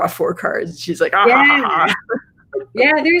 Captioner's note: laughs